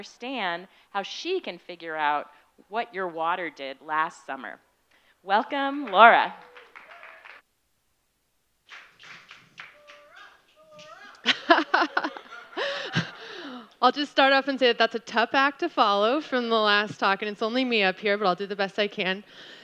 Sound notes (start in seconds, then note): 9.1 applause